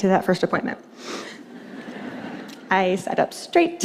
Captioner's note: laughter